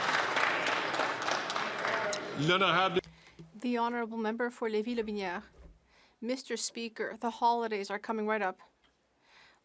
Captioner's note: some Applause